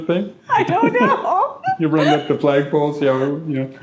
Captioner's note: laughing